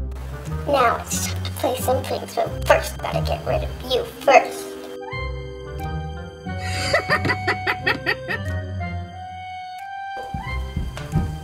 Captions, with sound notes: Now it's time to play some pranks, but first I gotta get rid of you, first. (Laughing)